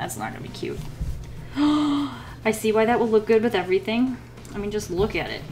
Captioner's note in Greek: Κοφτή ανάσα